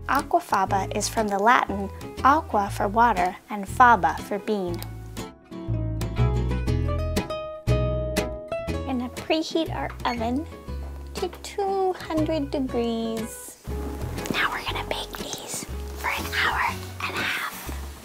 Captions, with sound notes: Aquafaba is from the Latin, "aqua" for water, and "faba" for bean. (mellow guitar music) Gonna preheat our oven to 200 degrees. (whispering) Now we're gonna bake these for an hour and a half.